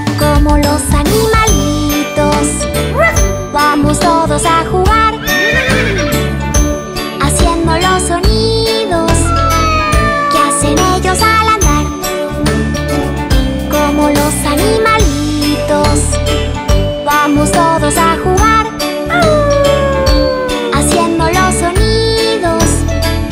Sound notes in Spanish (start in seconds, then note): 2.5 Ladrido; 5.2 Sonido de relincho; 9.2 Maullido; 19.2 Aullido